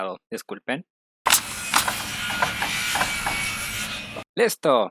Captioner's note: construction sounds